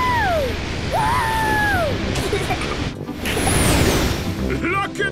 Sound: rocket thrusting

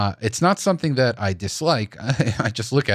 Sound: chuckles

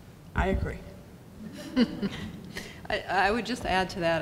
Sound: audience laughs

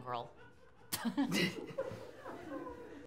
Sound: laughter

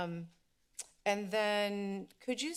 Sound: clicks tongue

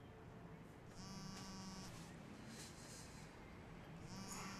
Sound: phone vibrating

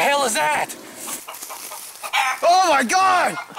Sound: chicken clucking

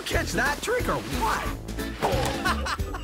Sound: laughing

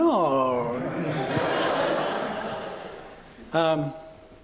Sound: laughter

